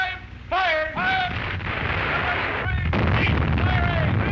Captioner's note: loud explosions